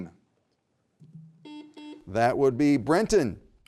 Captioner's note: buzzer buzzing